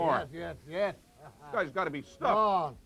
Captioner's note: laugh